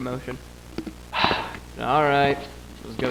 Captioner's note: sighs